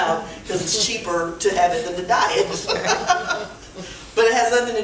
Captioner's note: laughs